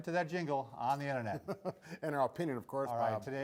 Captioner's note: laughs